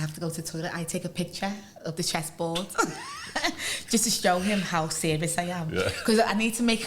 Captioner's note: laughter